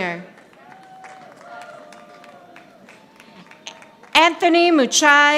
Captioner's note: audience applauding